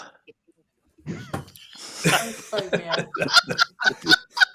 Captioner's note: laughter